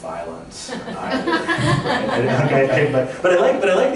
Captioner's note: laughter